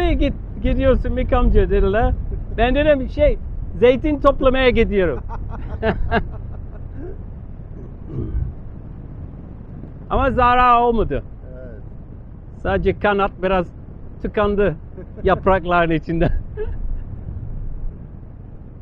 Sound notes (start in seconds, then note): 4.8 laughing